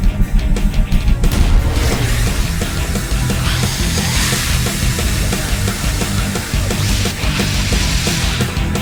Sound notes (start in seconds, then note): 4.4 hissing